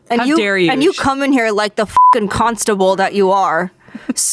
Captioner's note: beep